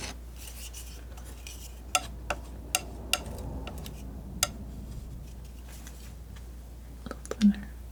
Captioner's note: tapping